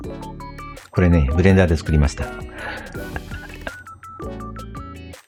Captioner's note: laughs